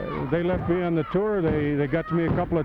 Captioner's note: hand thudding